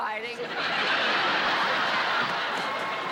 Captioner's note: laughter